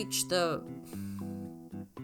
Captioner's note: exhales out of honker